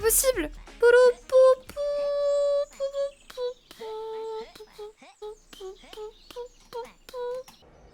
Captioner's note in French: chantonne